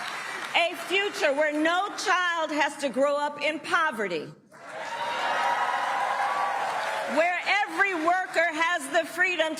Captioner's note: applause